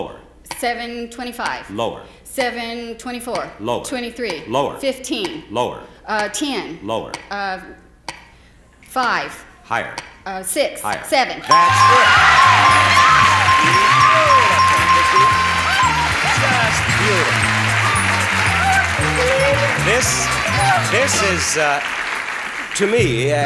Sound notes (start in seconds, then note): 12.5 audience clapping; 12.5 screaming